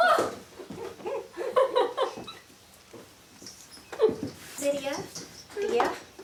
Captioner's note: both laughing